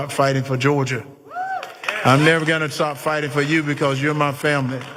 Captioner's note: applause